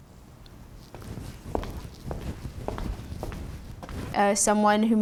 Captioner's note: footsteps